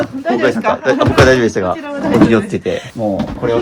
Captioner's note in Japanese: 笑い